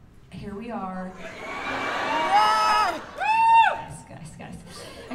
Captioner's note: laughter and cheers